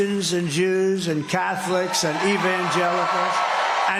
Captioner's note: applause